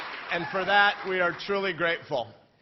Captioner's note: cheering